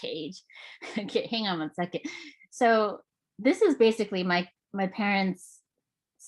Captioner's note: chuckles